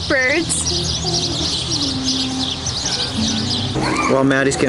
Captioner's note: birds chirping